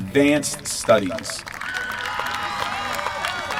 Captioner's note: applause